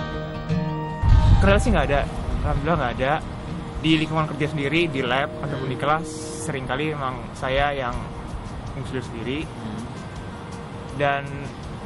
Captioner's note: non-english speech